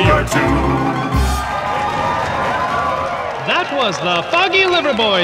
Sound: cheers and applause

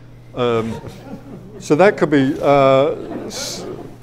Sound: audience laughs

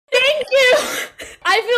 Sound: laughs

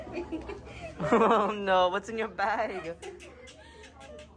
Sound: giggles

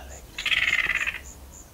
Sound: yellow-Crowned Gonolek call

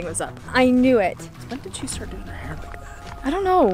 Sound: whispering

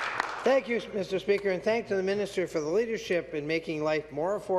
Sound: applause

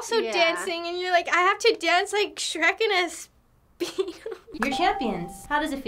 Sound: chuckles

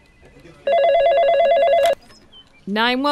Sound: phone rings

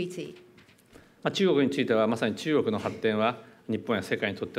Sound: speaking japanese

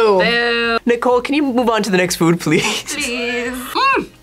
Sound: laughs

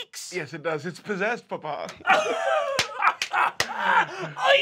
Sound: laughs loudly

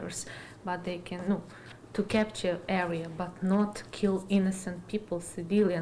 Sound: speaking Ukrainian

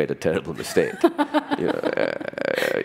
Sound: laughter

